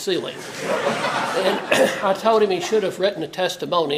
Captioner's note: laugh